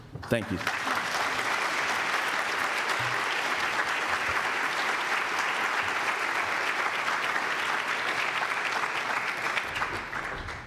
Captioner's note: applause